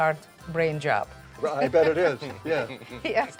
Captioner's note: laughing